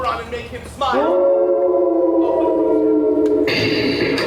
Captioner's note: wolves howl